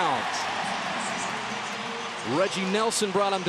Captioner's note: cheering